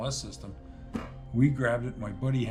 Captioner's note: hand thud